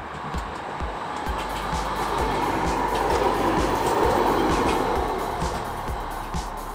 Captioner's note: tram rumble